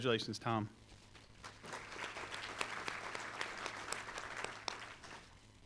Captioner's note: applause